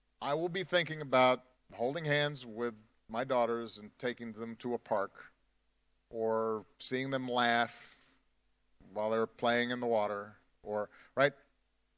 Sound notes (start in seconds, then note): none